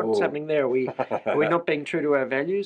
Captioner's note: laughs